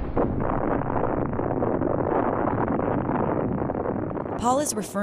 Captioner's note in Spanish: Explosión